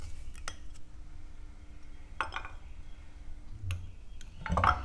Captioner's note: sound of cork plopping in